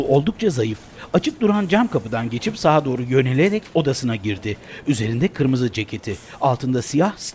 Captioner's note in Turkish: Ayak sesleri